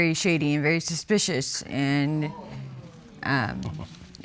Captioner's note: audience exclaiming